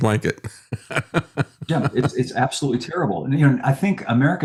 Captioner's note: laughs